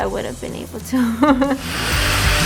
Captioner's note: laughs; rock music